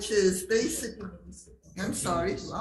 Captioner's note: colleague speaking faintly